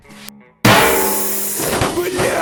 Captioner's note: sssssssssssssss